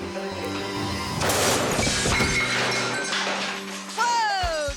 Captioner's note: electricity buzzing; light exploding